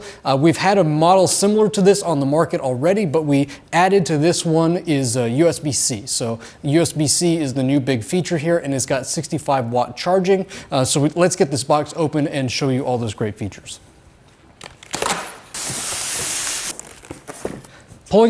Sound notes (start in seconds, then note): 14.5 tape clacking; 14.9 styrofoam scraping